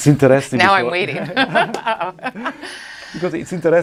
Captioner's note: laughs